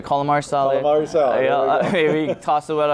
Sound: laughing

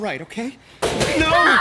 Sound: banging

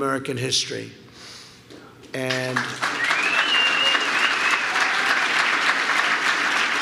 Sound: applause

